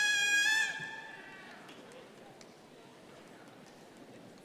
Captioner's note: crowd chattering